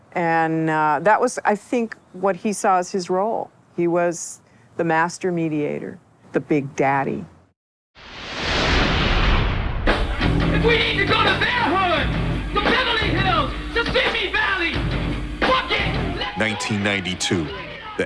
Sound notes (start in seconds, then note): 8.0 intense whooshing